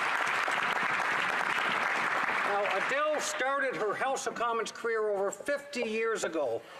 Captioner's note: applause